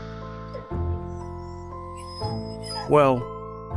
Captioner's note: yawns